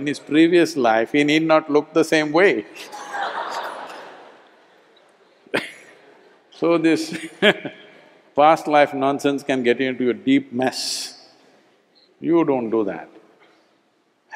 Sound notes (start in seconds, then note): 2.7 laughter; 7.2 laughs